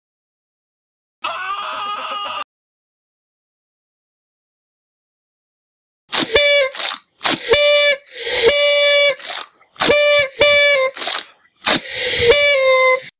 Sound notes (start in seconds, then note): 6.1 party blower sounds